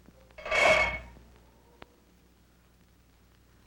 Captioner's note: metal rattling